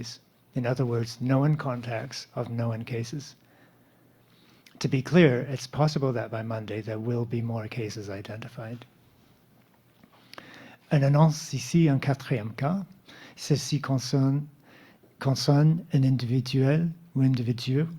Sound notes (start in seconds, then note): 11.3 speaking French